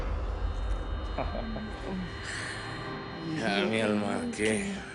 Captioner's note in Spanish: Ríe